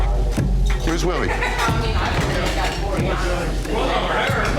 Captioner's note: crowd chatter